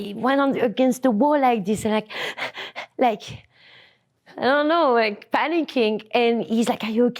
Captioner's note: pants